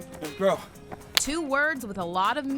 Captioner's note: high-fives